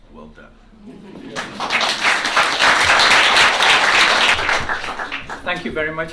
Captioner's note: applause